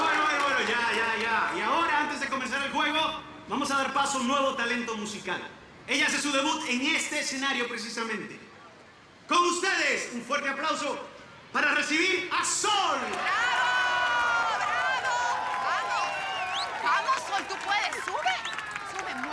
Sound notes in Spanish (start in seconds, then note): 12.8 Arengas del público